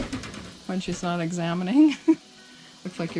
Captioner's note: chuckle